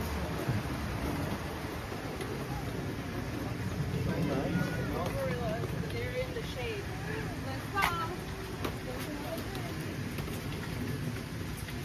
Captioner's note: walking